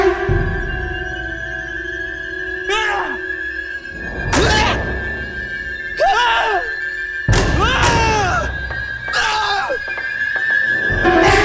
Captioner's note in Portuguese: Gritos